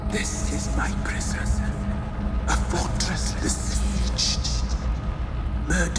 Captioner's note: none